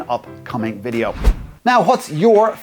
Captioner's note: whooshing